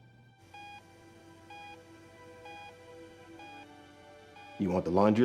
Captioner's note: heart monitor beeping